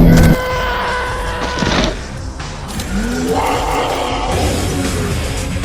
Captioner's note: growl; monster roars; car thunks; squeaks of car shaking